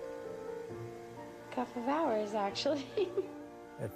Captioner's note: chuckles